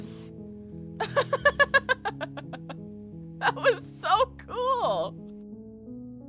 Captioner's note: laughter